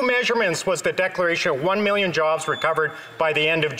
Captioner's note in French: voix de l'interprète